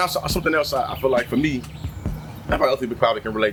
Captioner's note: birds Chirping